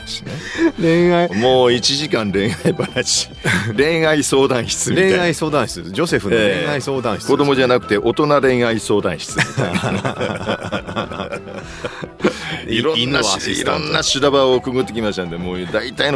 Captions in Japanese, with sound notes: 恋愛 もう1時間恋愛話。恋愛相談室みたい。 恋愛相談室セフの恋愛相談室。 子供じゃなくて大人恋愛相談室みたいないろんな場をくぐってきましたんで、もう大体のことは分かりますんで是非というそういう企画どうでしょう? [笑い]